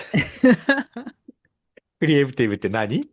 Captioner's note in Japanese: 笑い